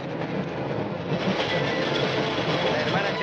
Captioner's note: train rumbling